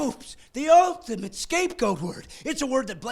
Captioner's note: laughing